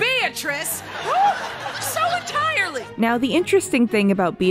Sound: audience laughter

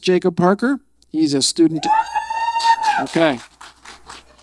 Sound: audience cheering

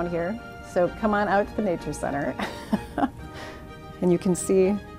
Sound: chuckles

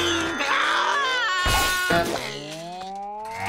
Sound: screaming

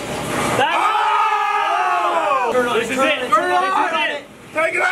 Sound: all shout

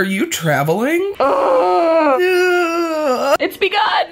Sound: both yelling

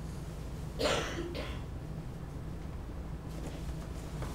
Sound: coughing

